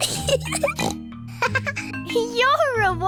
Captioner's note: laughs; giggles and snorts